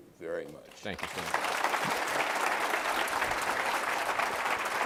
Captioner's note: applause